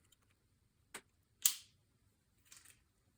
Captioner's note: snap